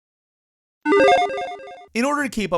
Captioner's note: digital tones